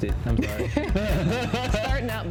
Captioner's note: both laugh